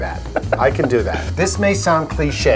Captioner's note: laughs